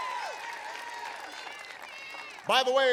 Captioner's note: applause